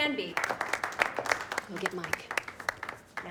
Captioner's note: crowd clapping